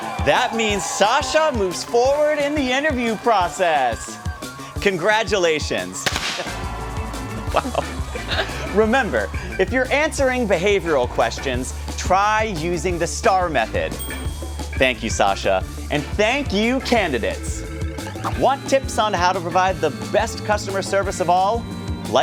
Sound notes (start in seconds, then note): 6.0 confetti canons pop